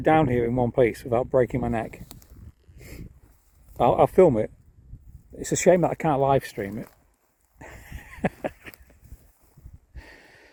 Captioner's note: laughs